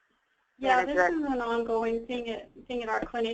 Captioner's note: voiceover